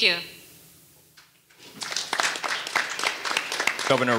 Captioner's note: audience applauding